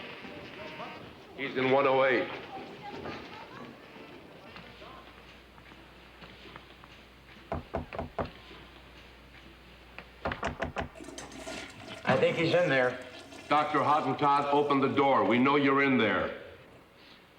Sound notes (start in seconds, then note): 3.1 soft chattering; 7.5 knocking; 10.8 toilet flushes